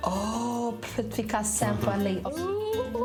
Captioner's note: speaks in foreign language